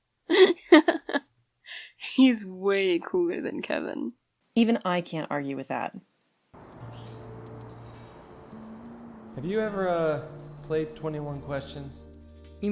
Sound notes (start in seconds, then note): 0.3 Nel laughing; 6.6 birds chirping, guitar playing